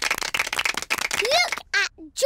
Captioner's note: applause